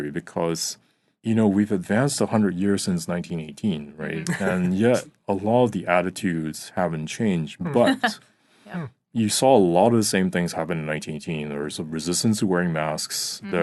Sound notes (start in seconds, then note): 4.0 laughing; 7.6 laughing